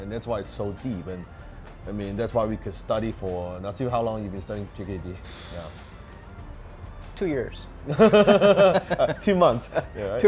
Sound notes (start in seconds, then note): 5.3 sighs; 7.8 both laugh